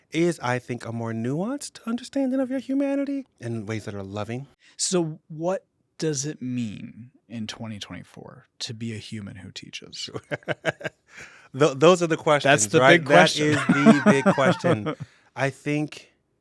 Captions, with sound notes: is I think a more nuanced understanding of your humanity in ways that are loving. - So what does it mean, in 2024, to be a human who teaches? - Sure, (laughs) those are the questions, right? - That's the big question. (laughs) - That is the big question. I think,